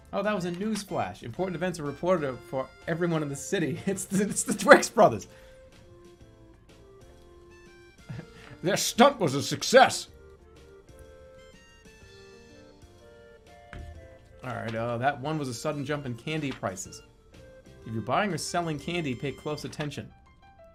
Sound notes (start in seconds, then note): 8.0 chuckles